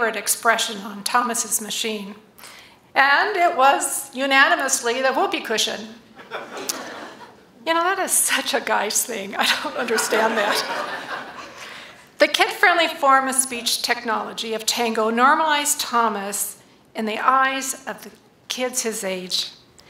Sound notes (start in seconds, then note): 6.1 laughter; 12.6 laughter